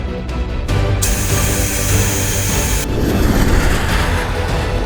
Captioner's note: breathing apparatus hissing; tense music